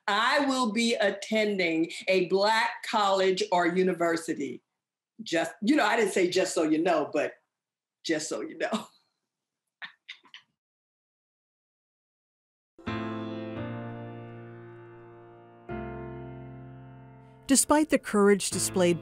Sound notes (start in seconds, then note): 8.5 laughs; 13.6 slow ambient music